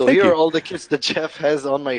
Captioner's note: laughs